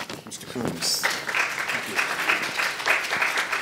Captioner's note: audience applauds